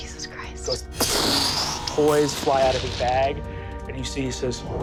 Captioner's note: mimics blast